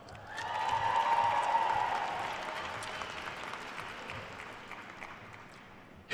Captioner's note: attendees cheering and applauding